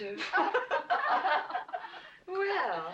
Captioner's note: women laughing